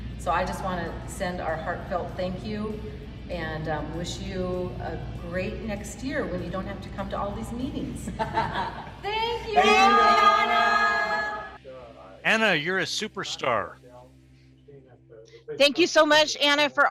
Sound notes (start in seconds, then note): 8.0 laughter; 8.8 group speaking together